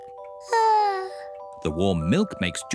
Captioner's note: yawns